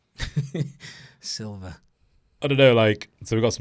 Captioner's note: laughs